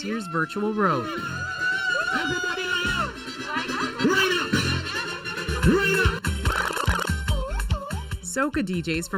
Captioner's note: cheering and loud music